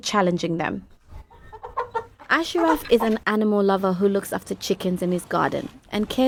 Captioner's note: chicken clucking